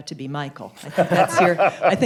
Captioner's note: laughter